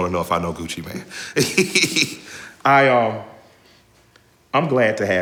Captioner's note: laughing